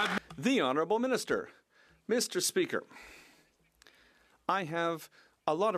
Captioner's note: some Applause